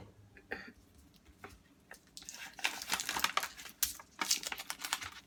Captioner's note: rips paper